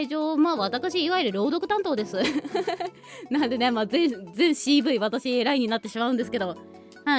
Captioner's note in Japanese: 笑い